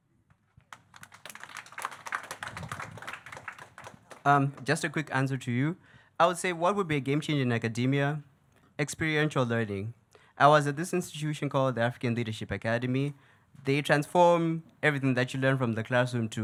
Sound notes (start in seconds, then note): 0.6 audience clapping